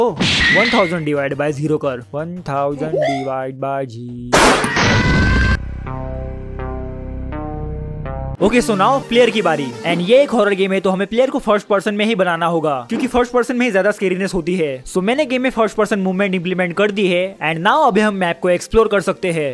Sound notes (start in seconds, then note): 4.4 blast